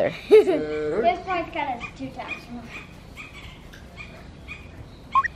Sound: laughing; child mumbling

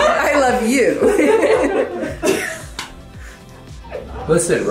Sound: group laughs

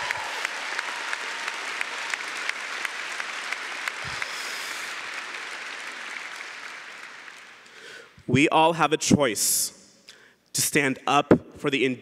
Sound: cheering & Applause

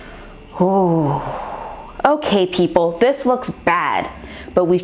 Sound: exhale

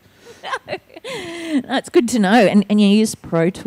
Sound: laughing

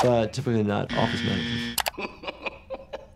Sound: buzzer buzzes; mouse clicks; man laughing

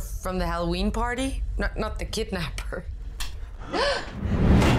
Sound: chuckles

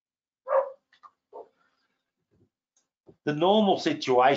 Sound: dog barking

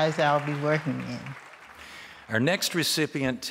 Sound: clapping

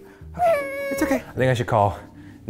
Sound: whimpers

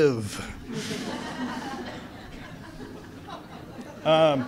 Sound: audience laughs

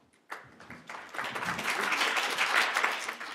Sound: applause

